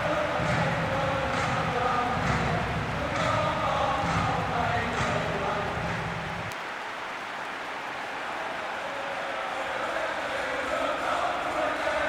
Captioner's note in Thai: ปรบมือ